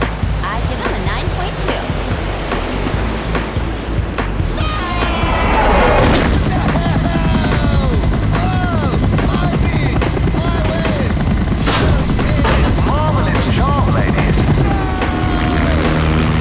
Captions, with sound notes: Excellent dismount. I give him a nine-point-two. [screaming] No! My beach! My waves! Marvellous job, ladies!